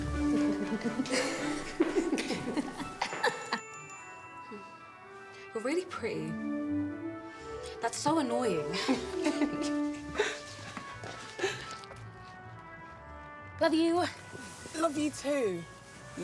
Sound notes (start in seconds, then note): 8.7 Dana and Regina laughing